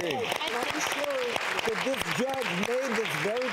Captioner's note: applause